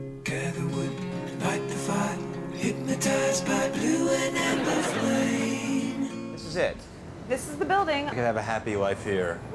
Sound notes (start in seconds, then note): 4.1 audience laughing